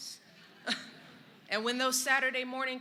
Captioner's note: laughter